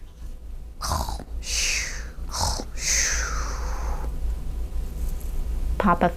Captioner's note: snoring